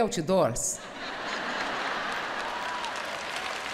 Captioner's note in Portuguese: plateia aplaudindo